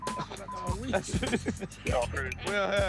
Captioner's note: laughing